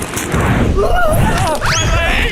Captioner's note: Toad'ish scream